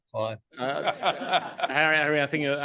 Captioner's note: panel laughs